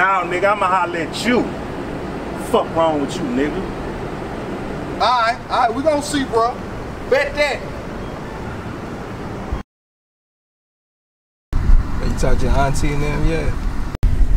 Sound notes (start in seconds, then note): none